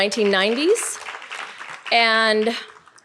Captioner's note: audience applauding